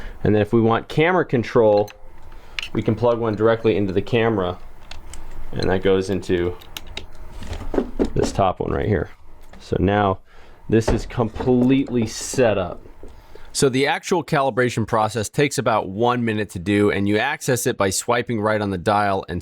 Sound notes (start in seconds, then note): 1.9 clattering sound; 6.4 gentle clicking sound; 7.4 soft tapping sound